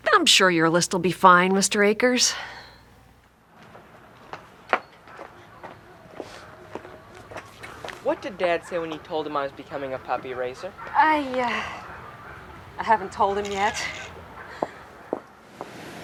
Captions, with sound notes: - I'm sure your list will be fine, Mr. Akers. (birds chirping) - What did dad say when you told him I was becoming a puppy raiser? - I, I haven't told him yet.